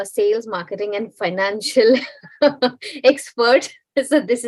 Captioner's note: laughs